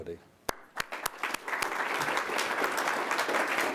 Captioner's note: group applauds